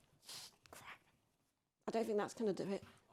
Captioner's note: liquid nitrogen sprays